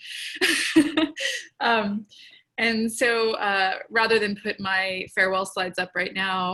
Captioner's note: laughter